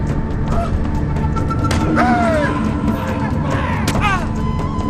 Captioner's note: soldiers cry out; soldiers shout